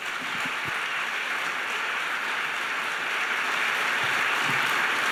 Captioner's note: audience applauds